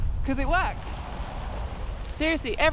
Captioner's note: rain